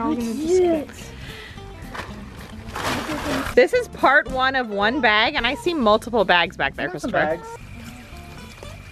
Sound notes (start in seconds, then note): 1.8 rustling